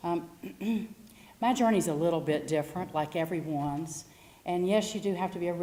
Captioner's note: cough